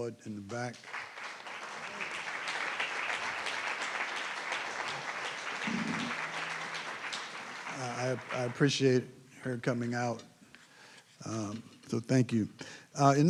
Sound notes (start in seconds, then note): 4.7 applause